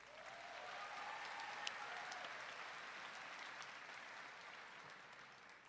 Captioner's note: audience clapping and cheering